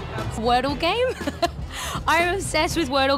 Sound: laughs

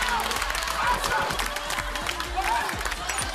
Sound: cl..ap..!

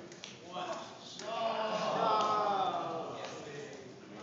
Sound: OH's, AW's, LAUGHTER

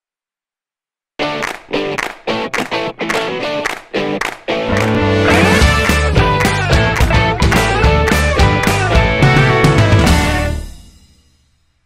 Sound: claps

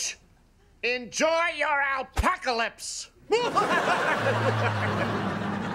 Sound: laughing

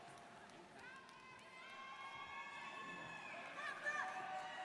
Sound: students cheering

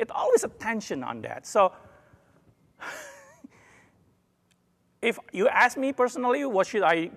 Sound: laugh

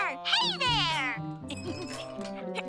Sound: giggling

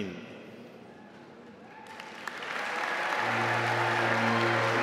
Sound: audience applauding

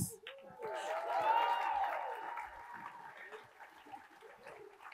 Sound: attendees applauding

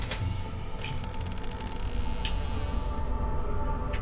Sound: door creaks open

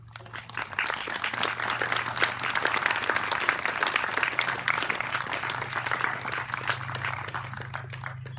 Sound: applause

